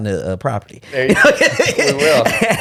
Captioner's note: laughing